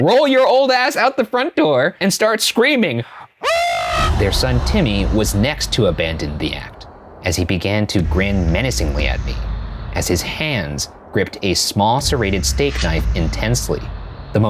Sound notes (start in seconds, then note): 3.4 screaming